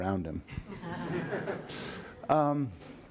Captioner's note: laughing